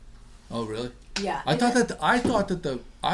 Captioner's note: voiceover